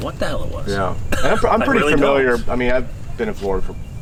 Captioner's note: chuckling